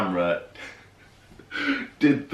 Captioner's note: laughing